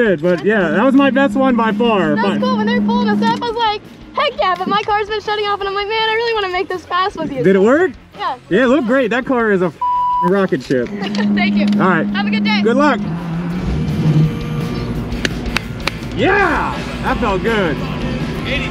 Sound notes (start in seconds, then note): 10.8 laughs; 17.5 upbeat rock music